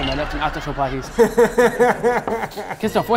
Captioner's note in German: Lachen